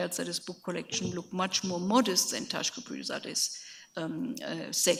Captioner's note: speaks in a foreign language